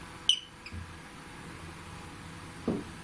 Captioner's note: beep